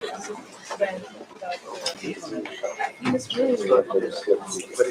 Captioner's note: indistinct chatter